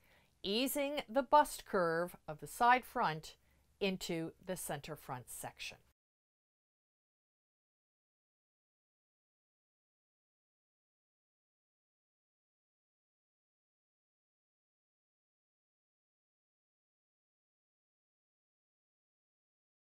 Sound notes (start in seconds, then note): 5.8 no Sound Present